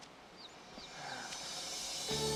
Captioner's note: sighs; dramatic music playing